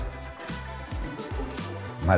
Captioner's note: laughter from the group